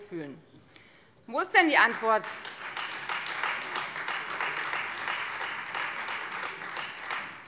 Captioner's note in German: Beifall Freie Demokraten